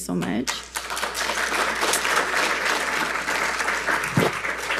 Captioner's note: attendees applauding